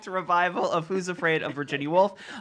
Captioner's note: laughing